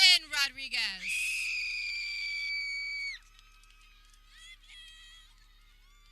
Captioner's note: people cheering